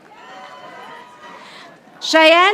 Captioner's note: audience applauding